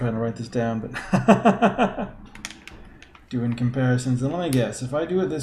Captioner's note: laughs